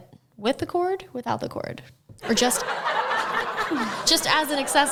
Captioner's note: crowd laughs